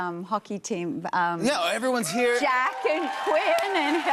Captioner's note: cheers and applause